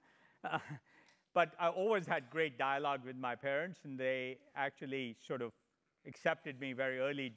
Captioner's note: laugh